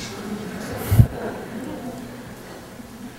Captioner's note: laughter